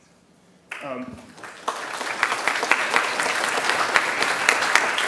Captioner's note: attendees clapping